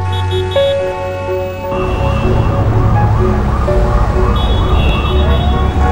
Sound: horns, sirens

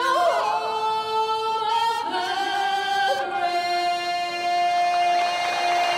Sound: crowd cheers and applause

